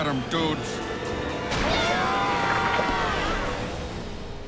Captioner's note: all shouting; wind rushing